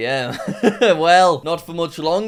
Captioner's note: laughs